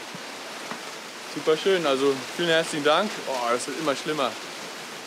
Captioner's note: rain